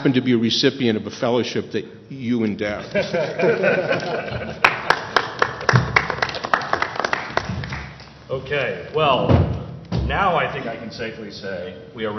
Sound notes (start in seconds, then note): 2.8 laughter; 4.6 applause